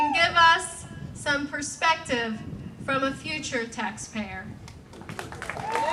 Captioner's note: clapping